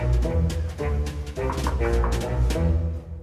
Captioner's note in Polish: pukanie do drzwi